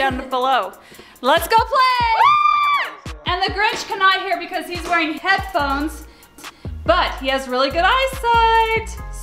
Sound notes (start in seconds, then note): 1.9 all cheer